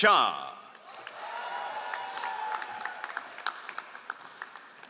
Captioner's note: all applauding